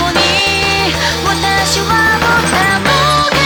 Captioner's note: bam